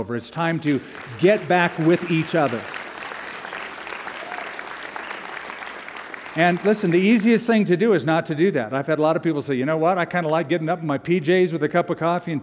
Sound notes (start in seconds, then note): 2.7 applause